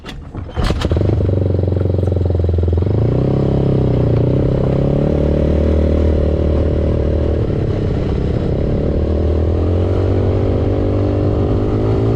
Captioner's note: engine sounds from ATV